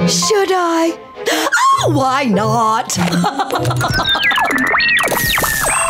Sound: laughing

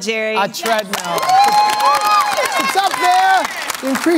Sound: cheers

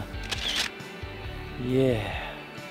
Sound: camera shutter

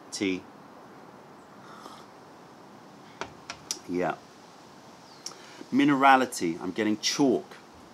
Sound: sips tea

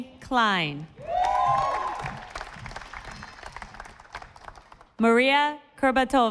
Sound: audience applauding

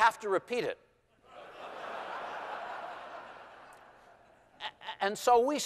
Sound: laughter

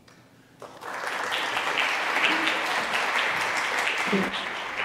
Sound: audience applauds

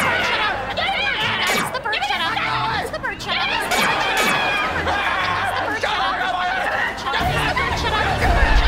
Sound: arguing

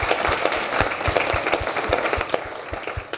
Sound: applause

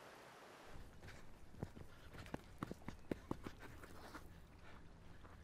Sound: footsteps

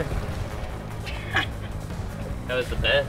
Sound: laughs

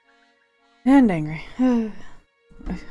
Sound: sighs

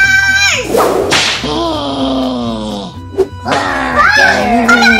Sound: whip cracks, monsters growl

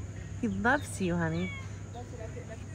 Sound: meow

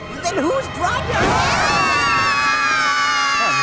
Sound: screaming

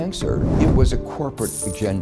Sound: coins chiming

